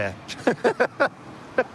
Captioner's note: laughter